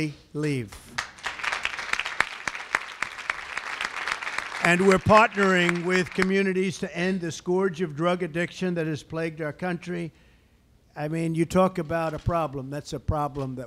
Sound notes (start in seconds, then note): 0.9 applause